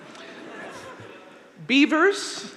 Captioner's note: audience laughing